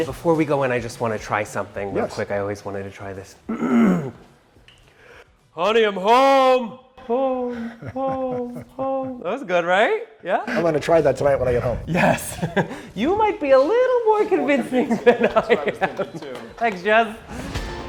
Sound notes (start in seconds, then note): 3.5 clearing throat; 6.8 voice echoes